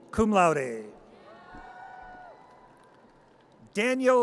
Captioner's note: audience cheers